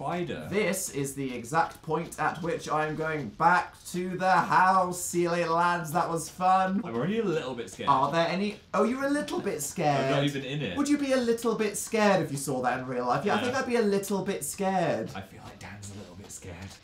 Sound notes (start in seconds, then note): 8.4 sarcastically; 15.0 whispering